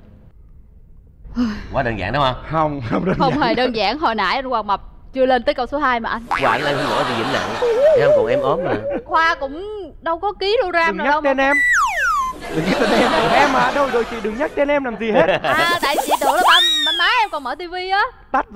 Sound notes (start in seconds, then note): 12.1 laughing